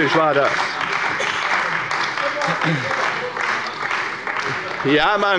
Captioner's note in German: Beifall bei der CDU